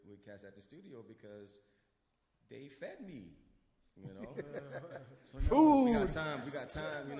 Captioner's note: combat laughs